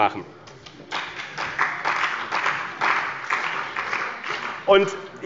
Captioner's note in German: Beifall bei dem BÜNDNIS 90/DIE GRÜNEN und der CDU